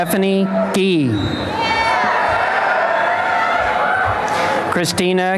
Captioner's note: applause and cheering